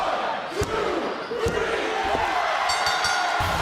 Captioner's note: crowd yells "one, two, three"; bell rings